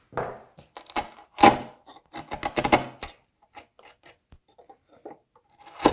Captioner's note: hard wood crunching